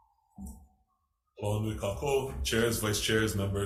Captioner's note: speaks in foreign language